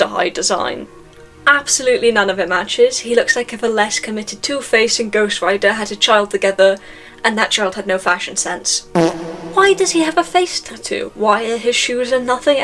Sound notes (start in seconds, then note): 8.9 fart sound effect